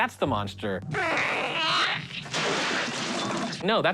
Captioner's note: Chestburster squealing